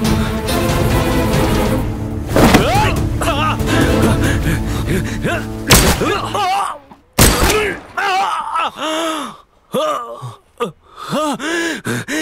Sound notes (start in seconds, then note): 5.7 gunshot